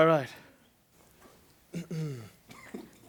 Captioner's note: clears his throat